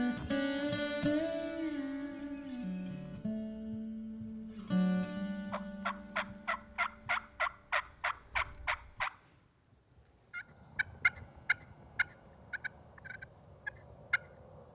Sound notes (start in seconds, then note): 5.4 turkey calls; 11.9 turkey calls